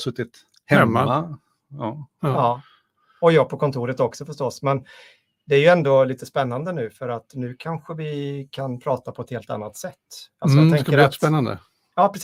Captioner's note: speaking in Swedish